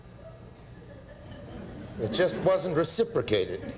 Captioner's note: audience Tittering